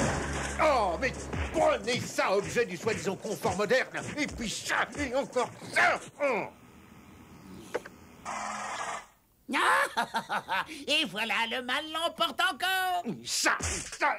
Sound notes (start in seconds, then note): 9.5 laughs